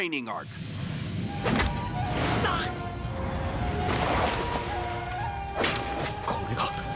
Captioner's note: sounds of sword battle